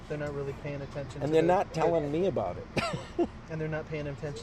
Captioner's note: laughs